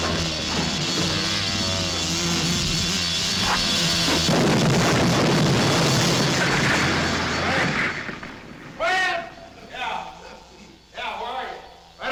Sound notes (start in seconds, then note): 4.3 explosions rumbling; 6.6 stones clacking